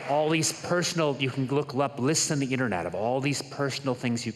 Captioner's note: applause